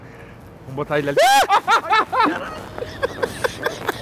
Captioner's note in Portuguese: gritando